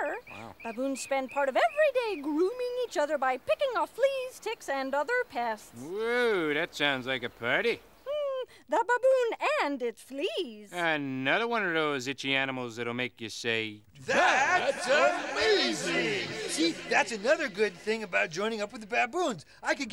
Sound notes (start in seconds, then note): 14.0 echos